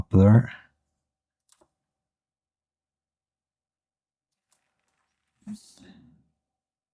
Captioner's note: silence